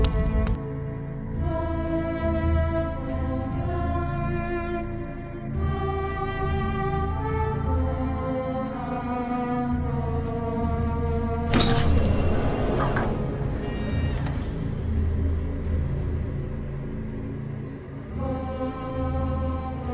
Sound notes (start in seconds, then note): 11.5 door opens